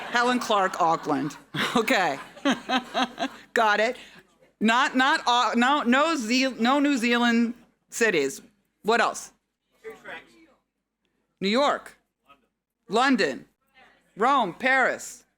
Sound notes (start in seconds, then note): 0.0 laughs; 10.1 audience chattering